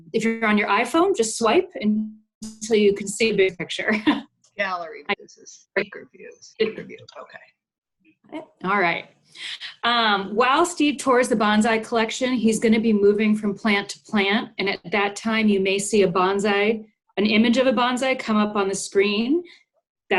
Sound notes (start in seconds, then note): 4.1 chuckles